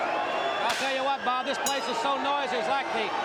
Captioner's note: crowd cheering